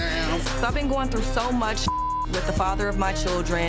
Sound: beep

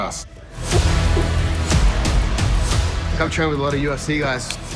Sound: wall pads squeaking

